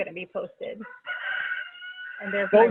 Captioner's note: rooster crows